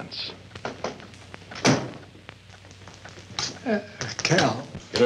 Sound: door slams

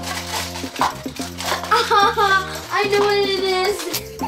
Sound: laughs

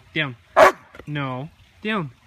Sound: barks in protest

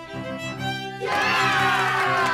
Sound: cheers and applause

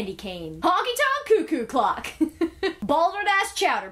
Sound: laughs

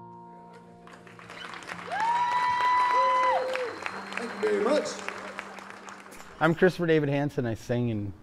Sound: applause

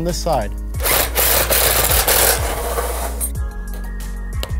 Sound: drill revs

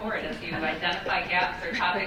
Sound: group laughing

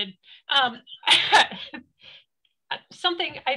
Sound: laughs

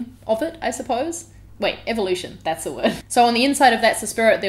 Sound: laughs

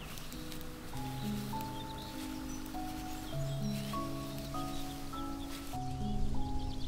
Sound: soft clickety-clackity-click

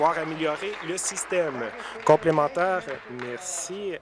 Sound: applause

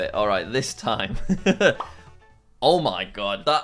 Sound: chuckles

